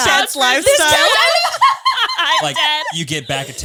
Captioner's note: all laughing